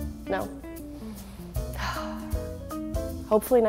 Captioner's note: sighs